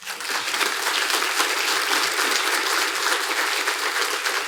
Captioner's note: audience applauding